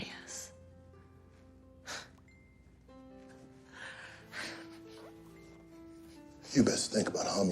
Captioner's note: laughing